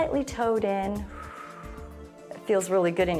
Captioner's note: exhales